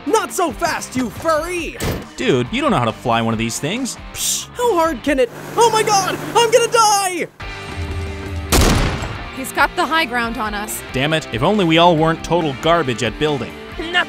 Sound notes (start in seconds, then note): 8.5 gun fires; 8.9 upbeat rock music